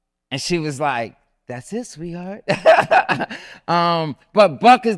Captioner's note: laughs